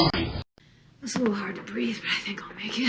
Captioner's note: on TV